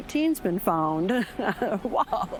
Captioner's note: laughs